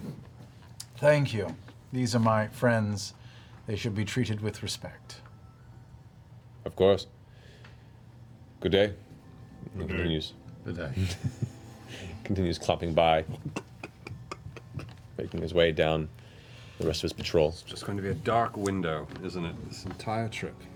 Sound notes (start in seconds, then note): 13.7 hoofbeats